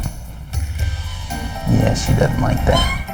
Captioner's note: Shakers meows